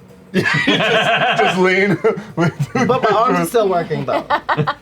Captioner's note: laughs; laughter